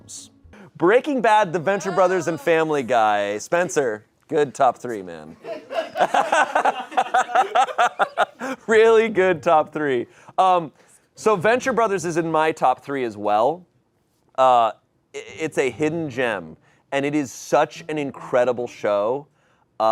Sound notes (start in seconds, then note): 5.4 audience laughing